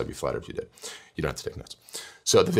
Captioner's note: breath